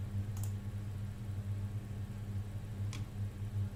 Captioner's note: mouse clicking